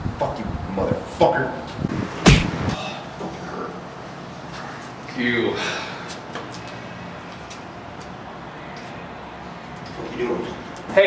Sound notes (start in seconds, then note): 5.3 sighs